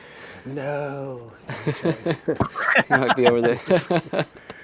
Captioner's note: laughter